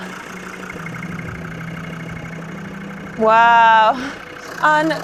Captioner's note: vehicle engine whirring; beep